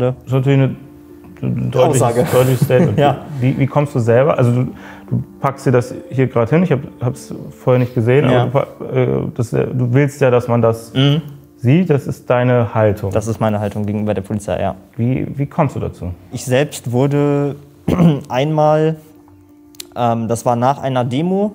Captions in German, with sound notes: Ist natürlich 'ne ... - Aussage. Deutliches Statement. - Ja. Wie kommst du selber ... Du packst dir das hier grad hin, ich hab's vorher nicht gesehen. Du willst ja, dass man das sieht. - Mhm. Das ist deine Haltung. Das ist meine Haltung gegenüber der Polizei, ja. Wie kommst du dazu? Ich selbst wurde einmal ... (Räuspern) Das war nach einer Demo,